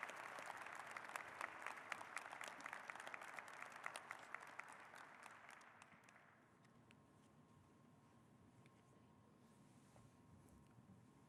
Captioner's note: applause